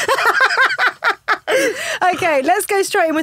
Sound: laughing

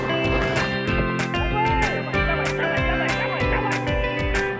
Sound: shouting

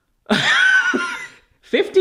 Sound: laughs

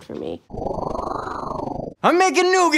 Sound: whooshing

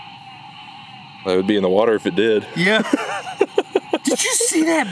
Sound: laughter

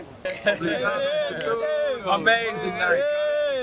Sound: bottles clink

